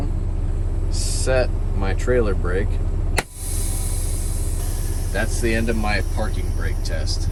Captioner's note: air brakes releasing